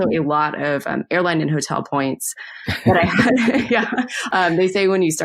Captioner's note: both laugh